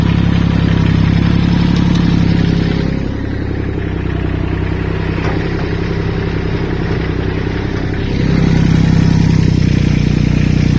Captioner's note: tractor sound